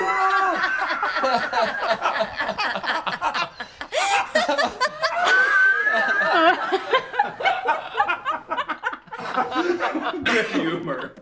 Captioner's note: laughing